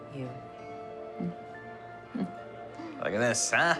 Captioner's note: chuckling